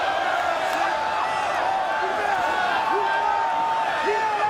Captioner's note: crowd exclaiming